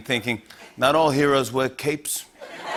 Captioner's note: Italian accent; laughter